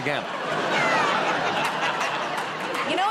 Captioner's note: laughter